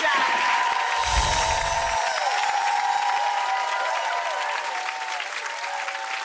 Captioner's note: audience cheering and clapping; twinkling chime fades